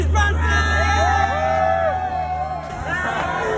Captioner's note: all cheering